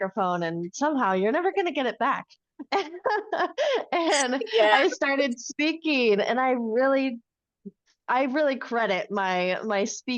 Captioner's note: laughs